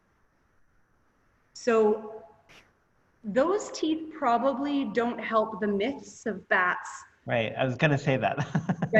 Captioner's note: laughter